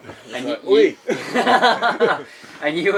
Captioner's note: laughter